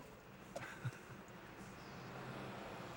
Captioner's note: chuckles